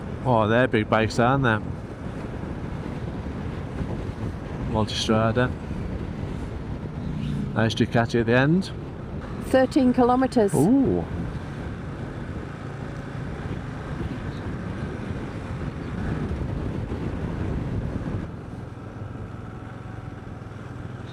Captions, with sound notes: Oh they're big bakes aren't they? Multistrader. Nice jacate at the end. 13 kilometers. Ooh. (wind blowing)